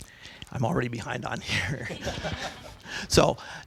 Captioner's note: laughing